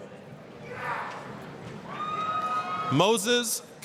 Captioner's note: applause, cheering